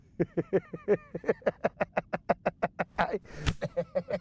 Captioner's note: laughter